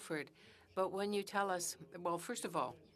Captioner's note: speaking French